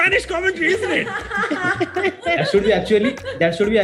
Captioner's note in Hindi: सब हँसते हुए